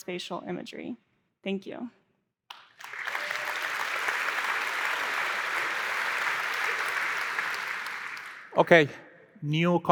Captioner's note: applause